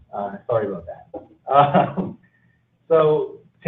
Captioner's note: laughs